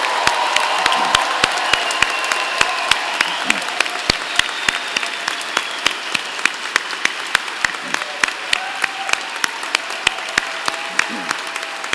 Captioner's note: applause